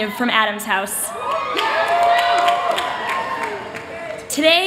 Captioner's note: cheering